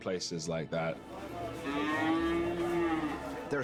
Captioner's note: cow mooing